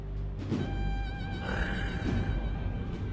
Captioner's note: grunts